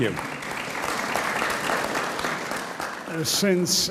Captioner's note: audience applauds